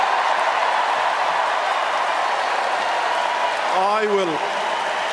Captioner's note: cheers and applause